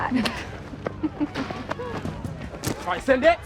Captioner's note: giggles